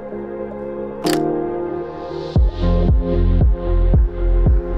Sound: camera shutter clicking; upbeat music

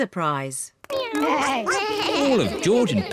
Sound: all making animal sounds

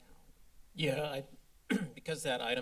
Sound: clears throat

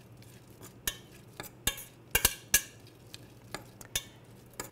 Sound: metal spoon scraping metal pot

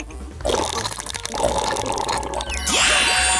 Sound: Vigorously drinking Coolpis too

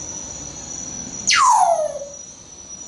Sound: whistling

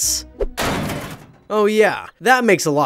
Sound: metal cranking

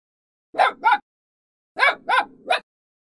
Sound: puppy barking

